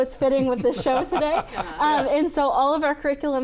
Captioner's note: laughs